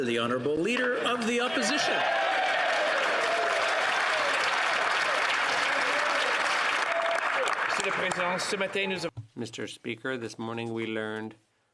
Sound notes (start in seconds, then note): 0.0 applause; 3.4 speaking French; 5.6 some Applause